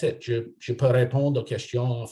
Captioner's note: non-english speech